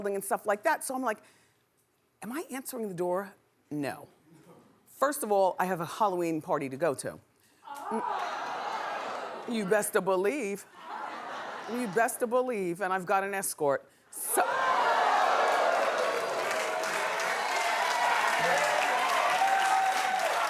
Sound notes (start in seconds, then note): 10.6 laughing; 14.2 cheering